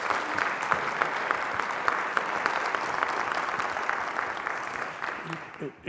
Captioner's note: applause